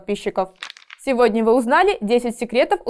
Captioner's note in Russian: Звук переворачивающейся страницы